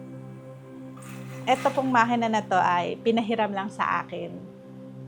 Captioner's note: sewing